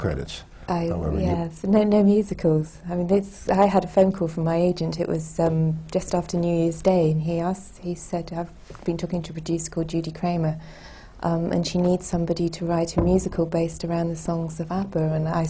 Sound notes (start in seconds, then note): none